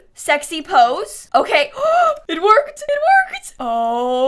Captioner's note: gasps